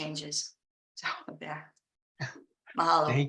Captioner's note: chuckling